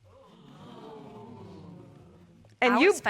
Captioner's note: audience exclaiming